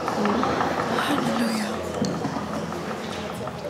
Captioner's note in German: leise